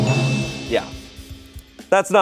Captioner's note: bell chimes